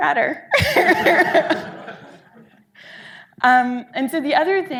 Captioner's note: audience laughing